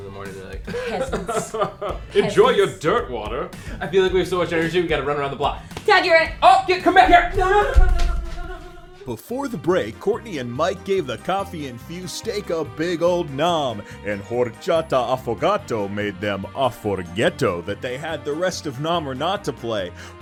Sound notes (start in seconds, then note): 0.6 laughs; 7.4 giggling